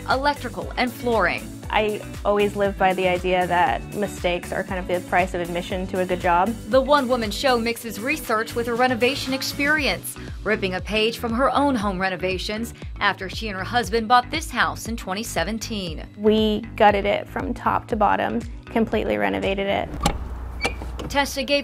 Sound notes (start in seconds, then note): 18.7 door clicking and squeaking